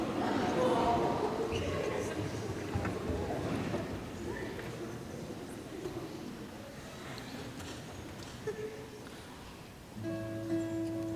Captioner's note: audience chatter